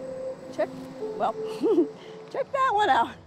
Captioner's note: laughs